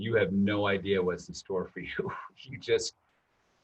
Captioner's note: chuckles